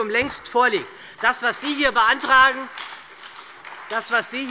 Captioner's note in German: Beifall bei der SPD